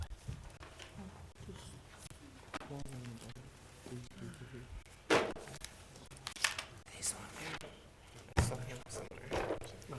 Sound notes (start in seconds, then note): 2.4 board chatting quietly